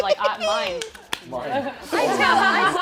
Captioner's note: laughter